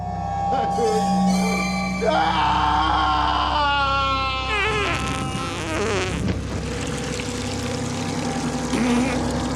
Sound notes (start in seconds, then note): 4.5 acid fart spray